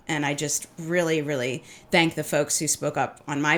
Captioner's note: none